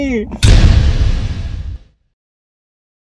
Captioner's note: impact